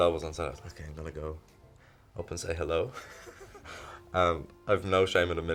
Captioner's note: laughs